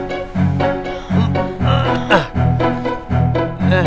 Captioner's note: Anuj groans